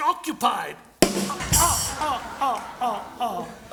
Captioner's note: laughter